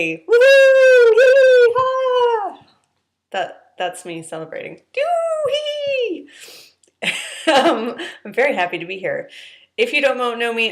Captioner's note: hooting